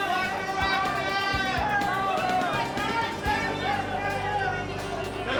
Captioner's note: crowd shouting